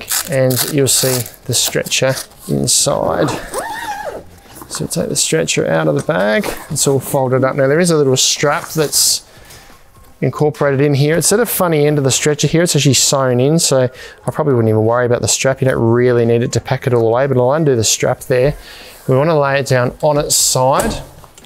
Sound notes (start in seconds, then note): 3.0 zip opening